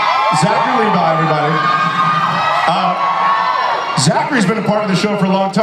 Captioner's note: audience cheers